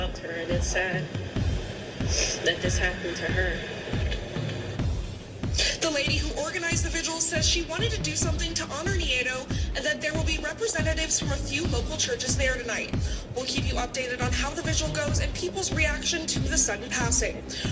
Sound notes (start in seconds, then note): 5.5 on TV